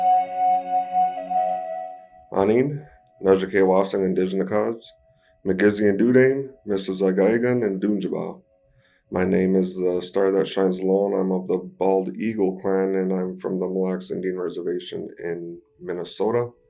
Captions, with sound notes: [Speaking Ojibwe] My name is The Star That Shines Low and I'm of the Bald Eagle Clan, and I'm from the Mille Lacs Indian Reservation in Minnesota.